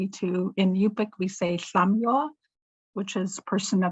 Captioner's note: speaks foreign language